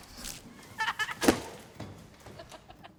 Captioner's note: kids laughing